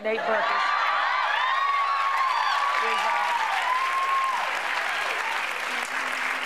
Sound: cheers and applause

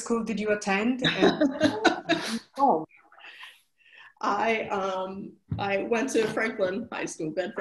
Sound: laughs

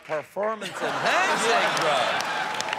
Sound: laughter

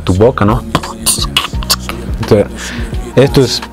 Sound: beat Boxing

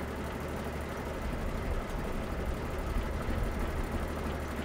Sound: car engine idling

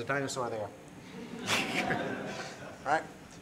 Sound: laughter

